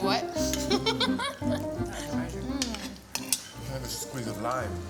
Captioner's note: laughing